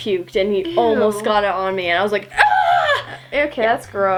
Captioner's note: yells